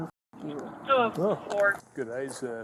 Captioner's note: radio chatter